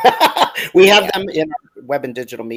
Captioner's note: laughs